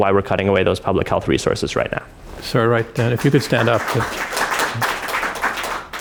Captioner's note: applause